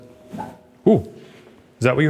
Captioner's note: loud thunk